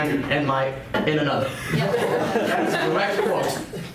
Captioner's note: students laugh